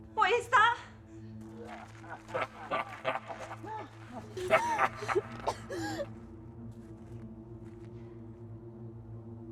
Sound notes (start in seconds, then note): 1.6 leprechaun laughing; 4.4 Jane coughing